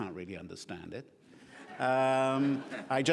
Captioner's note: laughing